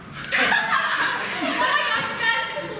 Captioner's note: laughter